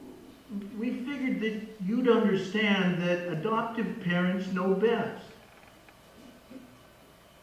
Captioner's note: voice on phone